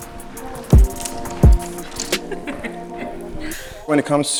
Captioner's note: model laughs